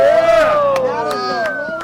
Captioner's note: cheering and applause